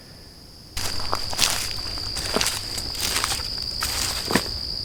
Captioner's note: crickets chirping